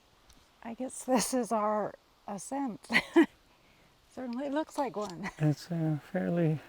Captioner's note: laughs